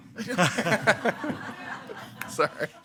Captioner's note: attendees laughing